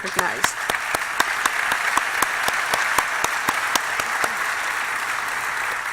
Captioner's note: applause